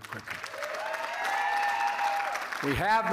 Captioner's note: applause